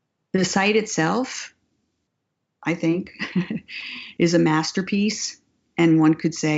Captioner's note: laughs